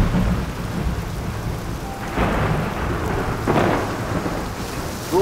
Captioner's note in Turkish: Gök gürlüyor